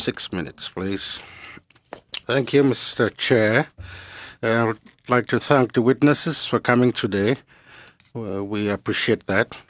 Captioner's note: speaking French